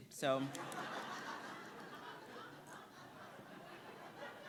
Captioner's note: audience laughing